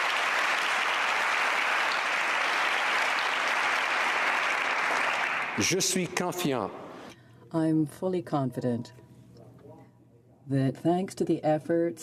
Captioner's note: applause